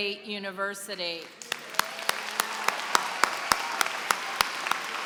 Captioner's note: applause